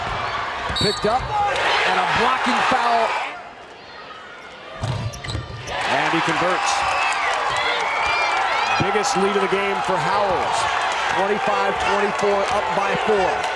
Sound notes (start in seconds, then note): 7.4 crowd cheers